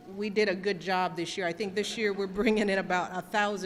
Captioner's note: laughter